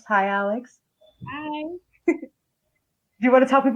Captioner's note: laughs